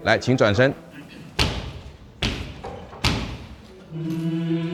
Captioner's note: stomping; choir singing